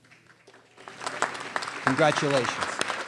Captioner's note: applause